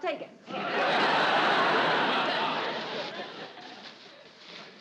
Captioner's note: audience laughing